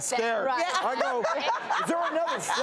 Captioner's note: laughter